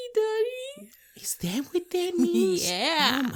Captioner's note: laughing